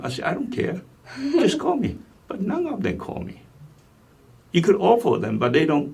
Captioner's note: laughs